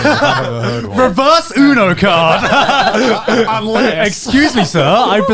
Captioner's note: laughs